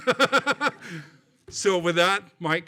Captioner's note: laughing